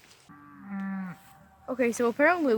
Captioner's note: cows mooing loudly